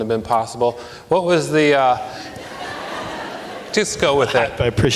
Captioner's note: audience laughs